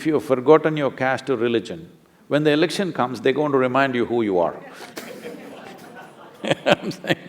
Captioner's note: laughter